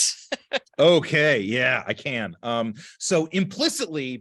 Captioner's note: laughter